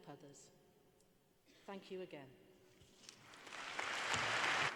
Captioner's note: applause